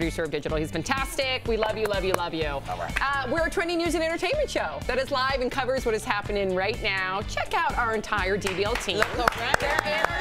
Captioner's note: cheers & applause